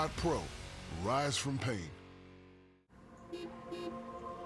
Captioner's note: car horn